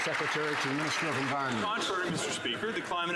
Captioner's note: some Applause